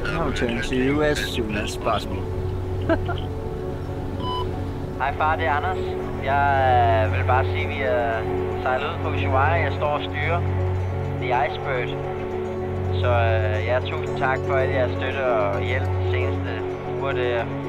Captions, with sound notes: I'll return to you as soon as possible. [chuckles] [voicemail in a foreign language] Hey, Dad. It's Anders. I just wanted to say that we've sailed off from Ushuaia and I'm steering the Icebird. So thank you for all your support and help the past weeks.